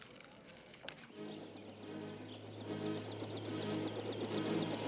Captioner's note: helicopter